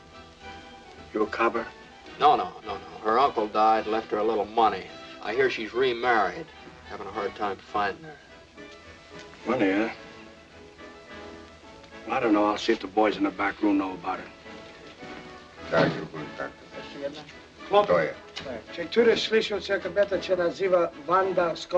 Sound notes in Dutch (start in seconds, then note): 15.5 gepraat; 18.7 spreekt pools